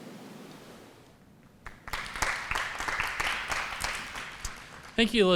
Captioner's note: applause